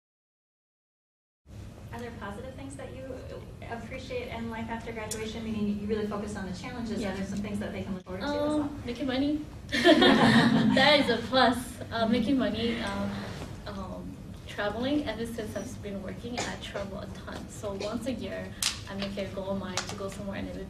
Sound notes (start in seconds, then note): 9.8 laughing